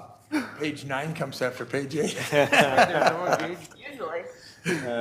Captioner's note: laughs